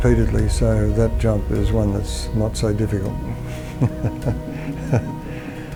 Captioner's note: laughs